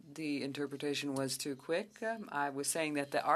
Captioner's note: speaking French